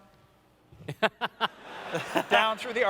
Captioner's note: laughter